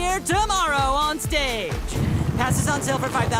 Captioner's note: rain and thunder